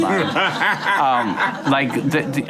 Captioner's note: laughing